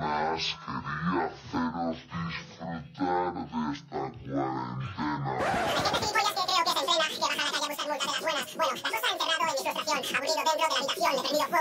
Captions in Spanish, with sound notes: ...disfrutar de esta cuarentena... (VOZ ACELERADA) ...gente gilipollas que yo creo que se entrena. ...dentro de la habitación.